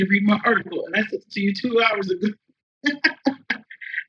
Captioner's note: laughs